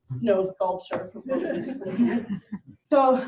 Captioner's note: participants laughing